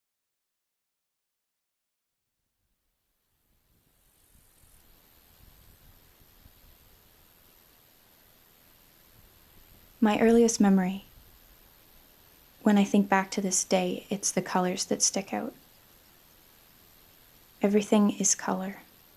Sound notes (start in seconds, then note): 3.8 white noise; 4.0 insects buzzing